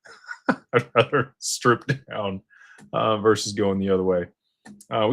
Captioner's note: laughter